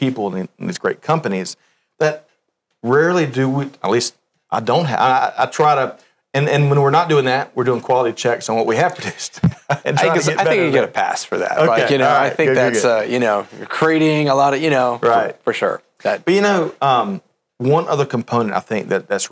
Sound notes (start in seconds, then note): 9.0 laughs